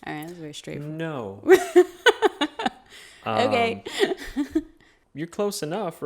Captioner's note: chuckles